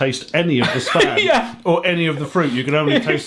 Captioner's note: laughing